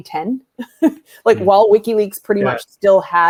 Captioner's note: chuckles